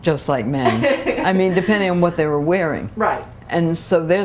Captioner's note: laughter